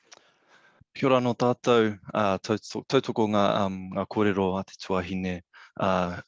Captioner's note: speaking in foreign language